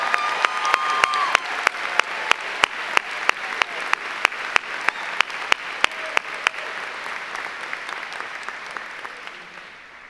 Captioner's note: applause